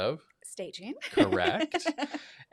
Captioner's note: laughs